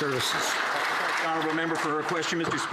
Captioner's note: some Applause